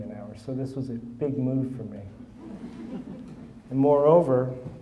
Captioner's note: audience chuckling